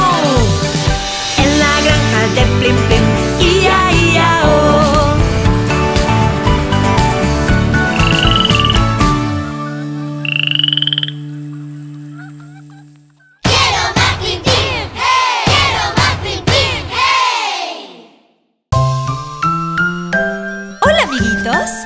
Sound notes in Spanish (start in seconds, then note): 5.3 Música Alegre; 10.2 Sonido de sapo